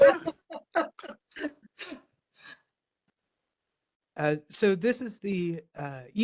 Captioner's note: laugh